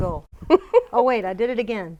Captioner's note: laughing; laughs